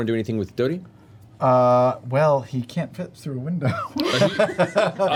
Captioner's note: laughs